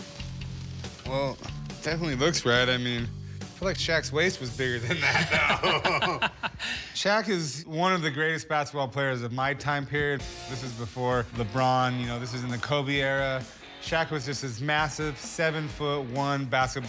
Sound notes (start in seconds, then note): 4.8 laughs